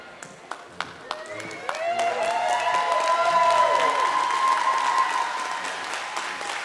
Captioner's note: audience cheering and applauding